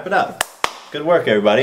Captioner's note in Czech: tleská